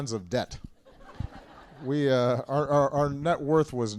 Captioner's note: laughter